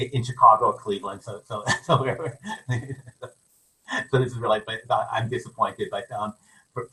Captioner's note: laughs